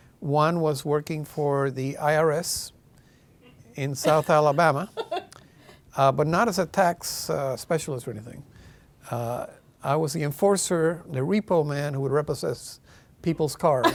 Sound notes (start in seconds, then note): 4.0 laughing